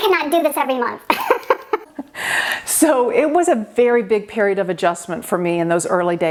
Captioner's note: laughing